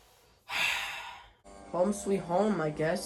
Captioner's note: sighs